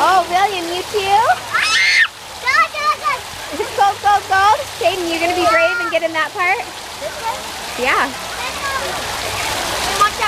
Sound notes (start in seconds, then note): 1.7 screams